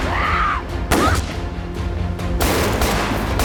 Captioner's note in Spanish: Disparos; Gritos; Disparo; Disparos